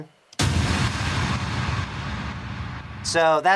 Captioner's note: impact plays